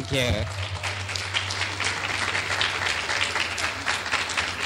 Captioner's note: clapping